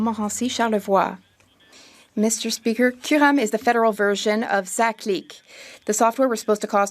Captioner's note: speaking French